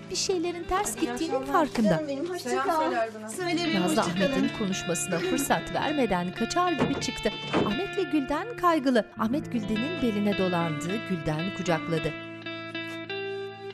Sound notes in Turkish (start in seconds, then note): 6.7 Kapı kapanma sesi; 8.2 Müzik - Duygusal